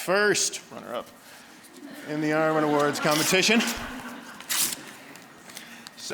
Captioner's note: audience laughing